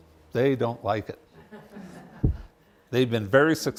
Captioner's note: laughter